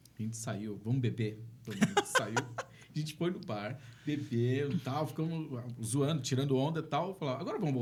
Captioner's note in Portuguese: risadas